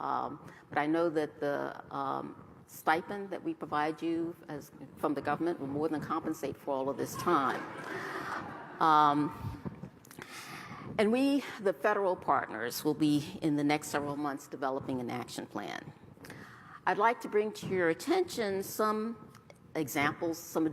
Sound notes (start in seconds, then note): 9.0 laughter